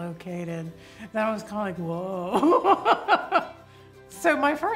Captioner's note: laughs